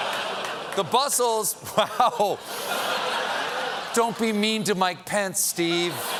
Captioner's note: laughter